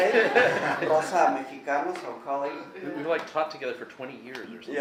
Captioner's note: laughing; speaking Spanish